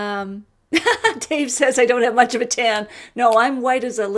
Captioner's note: laughs